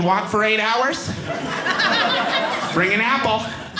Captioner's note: audience laughing